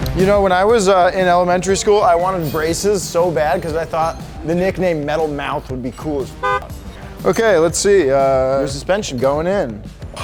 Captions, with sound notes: When I was in elementary school, I wanted braces so bad 'cause I thought the nickname Metal Mouth would be cool as (beep), - Okay, let's see your suspension going in.